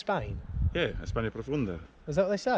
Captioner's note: speaking Spanish